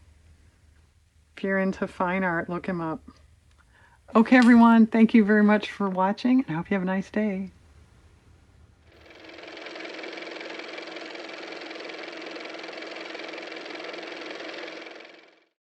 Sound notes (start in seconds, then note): 11.6 car motor